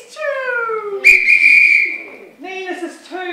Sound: whistle

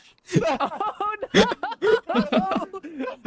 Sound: laughing; still laughing

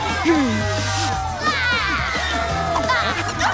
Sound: shouts

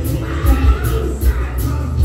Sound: screams

